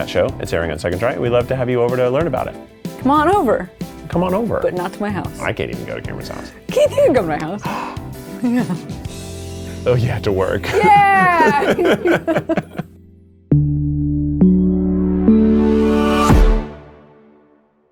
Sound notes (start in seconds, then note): 7.4 exclaiming in excitement; 10.6 people laughing; 13.0 stomps once more